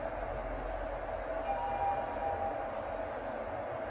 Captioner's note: Chime from Lift B